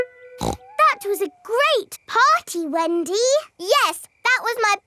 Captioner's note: snorts